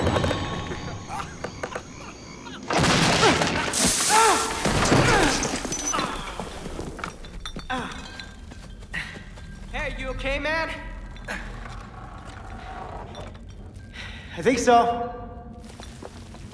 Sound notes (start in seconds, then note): 0.1 creaking continues; 2.6 grunting; 6.1 bottles rattling